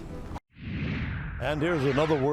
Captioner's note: air whooshing